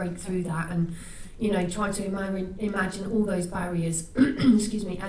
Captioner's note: clears throat